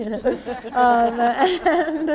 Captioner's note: people laughing